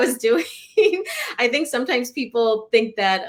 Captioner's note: laughter